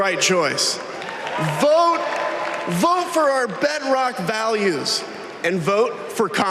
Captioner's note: applause